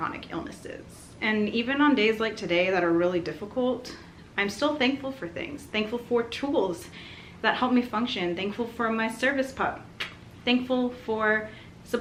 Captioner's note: kiss noise